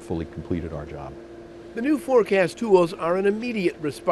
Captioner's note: voiceover